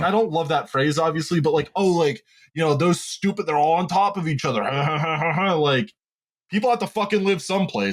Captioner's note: mean laugh